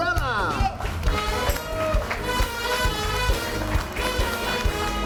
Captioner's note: audience cheering; upbeat music